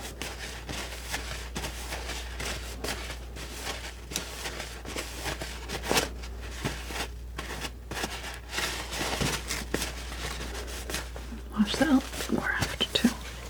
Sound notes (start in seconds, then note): 2.3 scratching